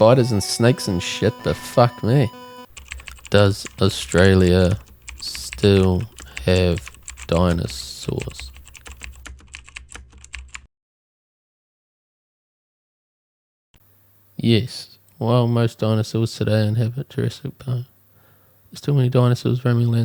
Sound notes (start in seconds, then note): 5.2 typing